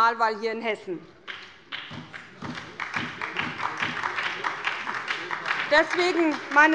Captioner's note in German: Beifall bei der SPD